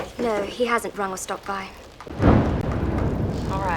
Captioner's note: thunder rumbling